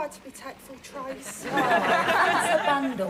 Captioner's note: audience laughing